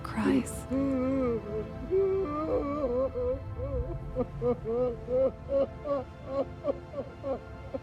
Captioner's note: continues sobbing